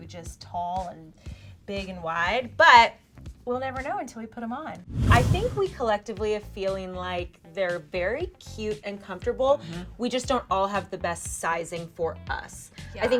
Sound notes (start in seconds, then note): 4.8 air whooshing